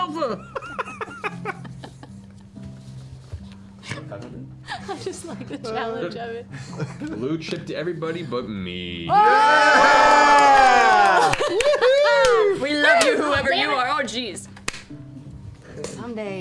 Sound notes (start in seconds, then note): 0.2 laughter; 9.1 cheering